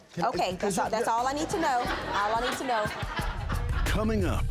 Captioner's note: audience laughs